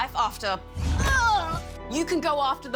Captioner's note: groans